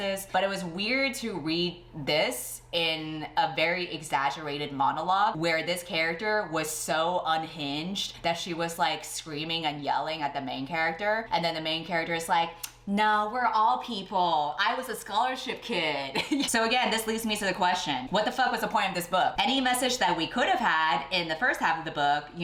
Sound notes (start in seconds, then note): 16.2 laughs